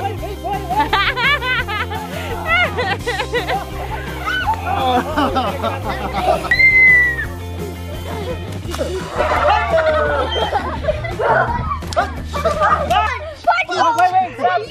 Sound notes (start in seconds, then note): 0.6 laughing; 5.0 man laughing; 6.5 screeching; 7.9 splashing; 10.4 giggling; 12.0 splashing